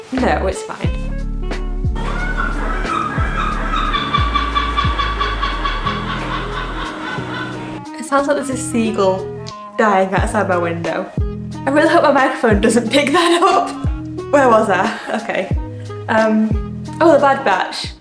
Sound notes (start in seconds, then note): 1.9 seagull noises